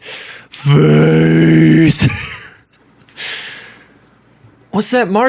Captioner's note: laughter